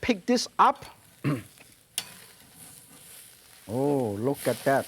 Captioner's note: meat sizzling on grill